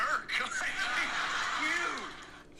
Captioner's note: crowd laughing